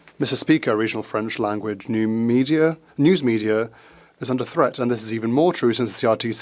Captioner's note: speaking French